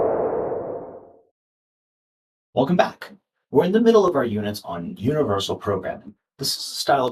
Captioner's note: woosh sound